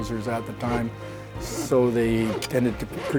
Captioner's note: wood sawing